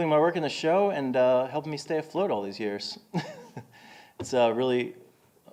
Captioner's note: laughing